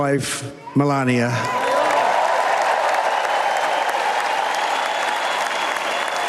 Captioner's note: applause